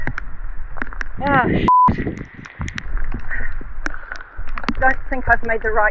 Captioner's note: beep